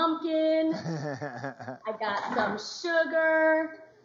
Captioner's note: laughs